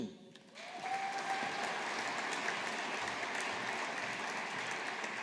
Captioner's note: audience applauding